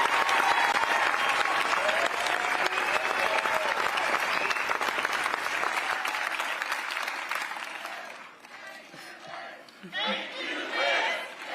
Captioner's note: cheers and applause